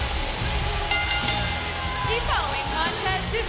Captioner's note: bell ringing